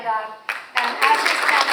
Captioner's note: audience applauds